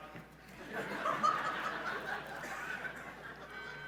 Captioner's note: laughs